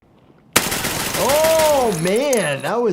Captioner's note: gun banging